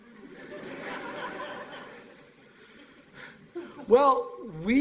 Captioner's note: laughter